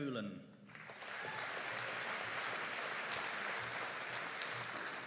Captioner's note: audience applauding